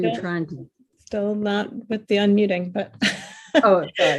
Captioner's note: laughing loudly